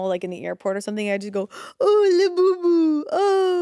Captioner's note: gasps